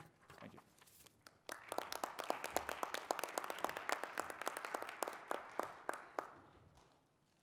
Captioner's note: applause